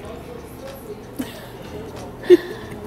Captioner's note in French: rire